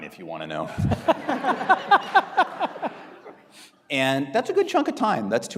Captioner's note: audience laughing